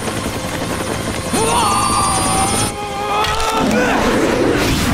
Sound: grunting

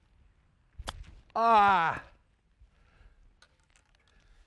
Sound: with disgust

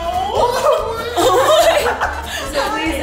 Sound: laughing

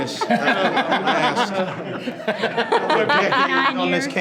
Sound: board members laughing

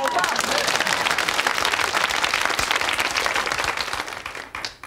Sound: audience clapping

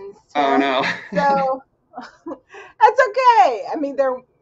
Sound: laughs

